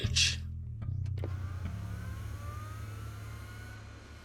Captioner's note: machine whirring